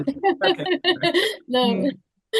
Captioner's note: laughs